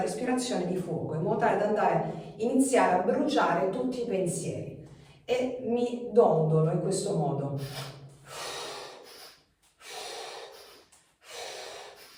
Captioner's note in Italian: sbuffare